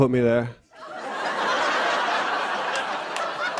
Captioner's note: laughter